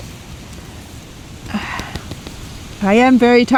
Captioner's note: sigh